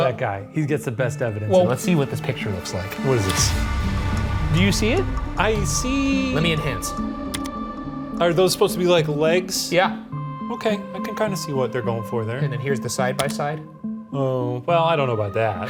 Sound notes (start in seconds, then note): 3.6 dramatic music; 7.3 key clicks